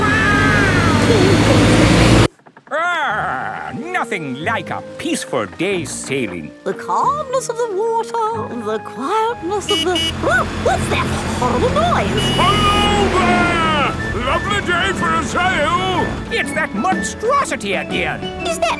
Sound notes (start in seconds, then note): 0.0 laughing; 9.4 honking